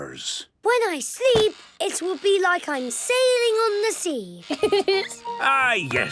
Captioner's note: laughing